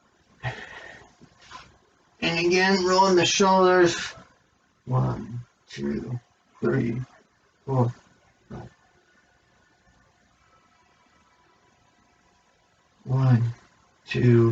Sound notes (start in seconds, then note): 0.4 sighs